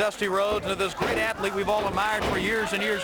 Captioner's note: crowd chatter